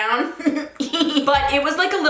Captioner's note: giggling